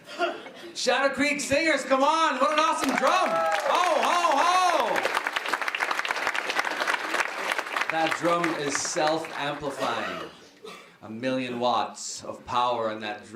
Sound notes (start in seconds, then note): 2.4 applause